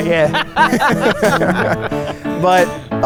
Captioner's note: laughing